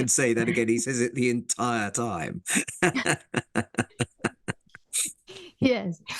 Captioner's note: laugh; laugh